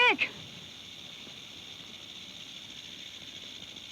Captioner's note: snake rattles